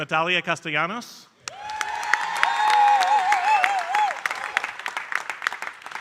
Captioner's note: audience cheering and applauding